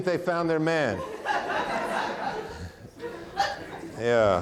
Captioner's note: audience laughing